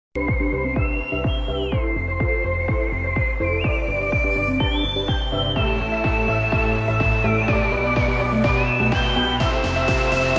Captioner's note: beautiful whistiling